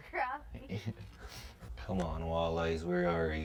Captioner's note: laughs